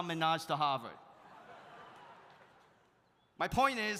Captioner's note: audience laughs